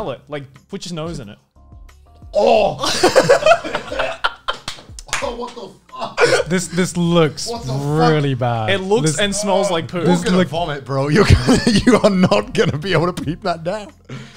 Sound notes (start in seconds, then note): 2.4 grunts; 2.6 laughing